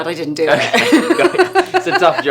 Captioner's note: laughing